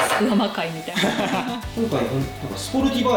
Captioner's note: laughs